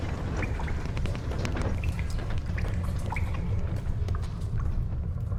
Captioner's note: dripping